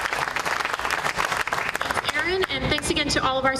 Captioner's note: applause